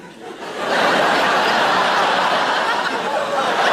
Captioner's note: audience laughing